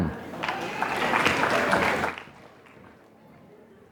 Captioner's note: applause